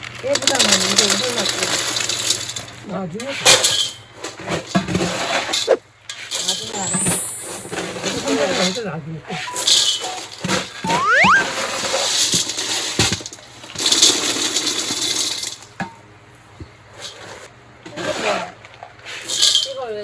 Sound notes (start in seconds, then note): 8.4 whispering